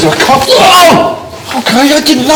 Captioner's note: shouts